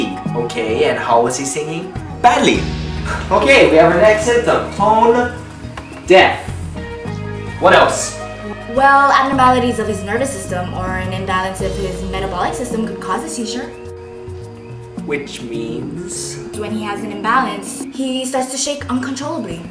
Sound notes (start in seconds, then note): 2.9 sighs